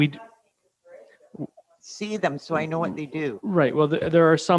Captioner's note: faintly speaking